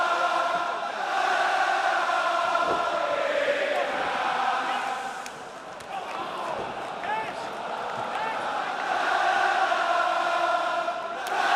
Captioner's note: crowd chatter